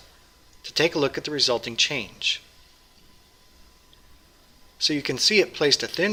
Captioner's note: pause